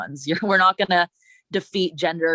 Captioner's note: chuckles